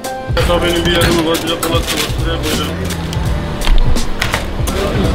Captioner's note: speaking foreign language